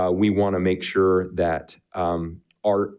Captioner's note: none